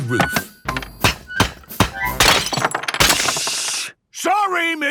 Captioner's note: banging, crashing